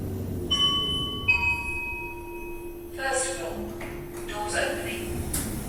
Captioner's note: ding Dong